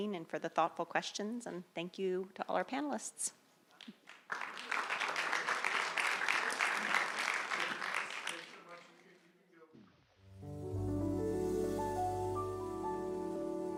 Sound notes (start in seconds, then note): 3.8 audience applauding; 10.2 light music